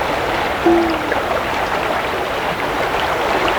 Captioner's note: pop; rushing water